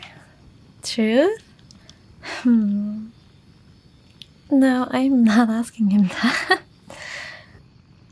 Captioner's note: chuckle